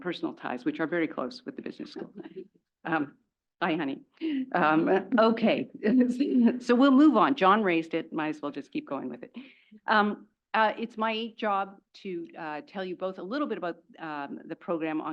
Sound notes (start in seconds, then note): 4.8 laugh